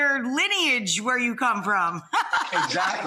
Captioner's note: laughs